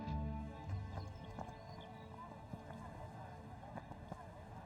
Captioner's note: crowd murmuring